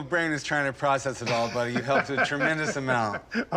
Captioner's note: laughs